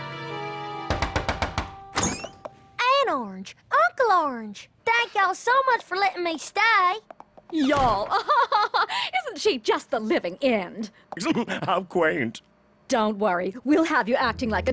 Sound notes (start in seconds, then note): 0.8 knock on door; 7.5 posh accent; 7.6 laughs; 11.1 posh accent